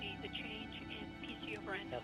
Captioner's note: murmurs